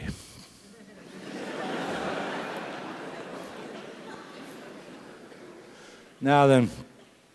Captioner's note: laugh